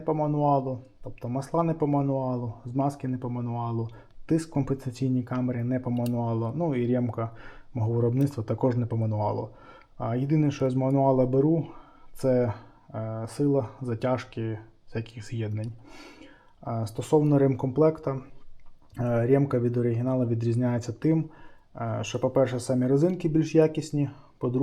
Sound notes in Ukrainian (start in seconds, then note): 15.8 сопіння